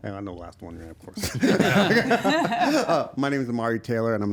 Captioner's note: everyone laughing